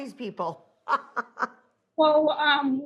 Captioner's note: laughing